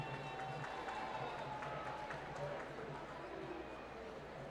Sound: applause

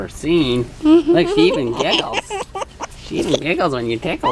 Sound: laughing

